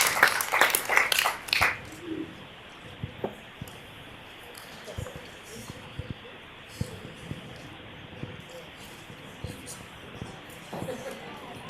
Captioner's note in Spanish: aplausos